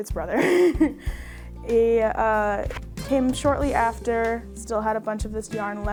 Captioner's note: chuckles